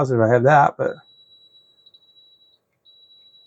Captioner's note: silence